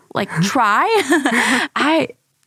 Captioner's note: laughs